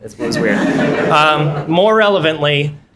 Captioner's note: laughter